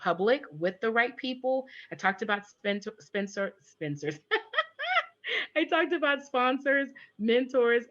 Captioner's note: laughs